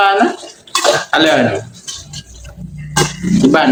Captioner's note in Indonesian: tertawa